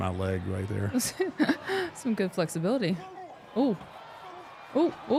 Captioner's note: laughs